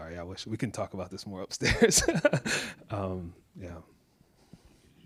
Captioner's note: laughs